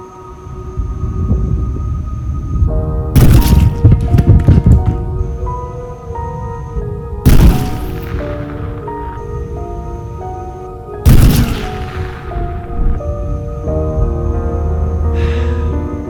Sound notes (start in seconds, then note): 1.0 thunder rumbling; 3.1 gunshot; 3.2 blood splatters; 7.2 gunshot; 7.4 blood splatters; 11.0 gunshot; 11.1 blood splatters; 15.1 sighs